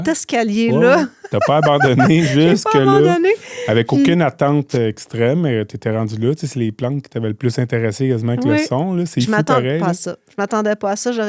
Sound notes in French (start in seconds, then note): 0.9 rires